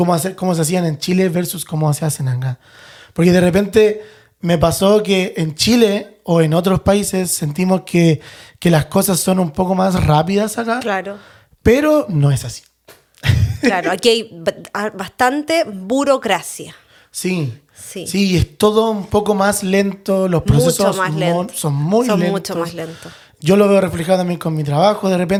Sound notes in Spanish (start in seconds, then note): 13.2 risas